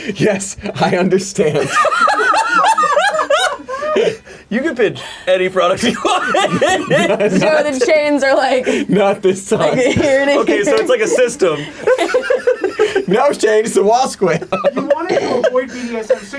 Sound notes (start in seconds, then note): 1.4 all laughing; 6.9 laughs; 9.6 laughs; 12.5 laughs